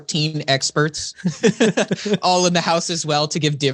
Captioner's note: laughing